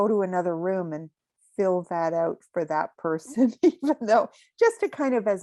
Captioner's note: chuckling